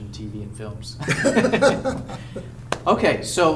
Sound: laughs

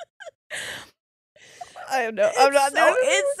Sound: both laughing

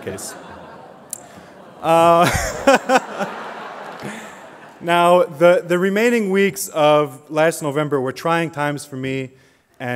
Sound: laughter

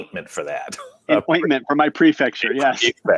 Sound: chuckles

